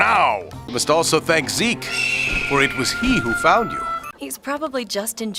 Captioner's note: hawk screech